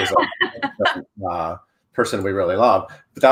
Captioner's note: laughing